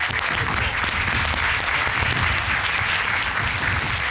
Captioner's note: applause